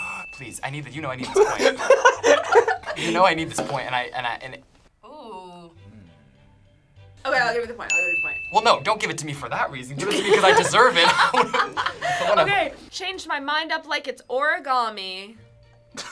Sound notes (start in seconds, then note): 1.3 laugh; 11.4 laughs